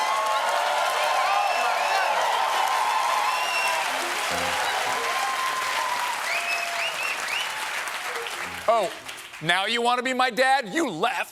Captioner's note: cheers and applause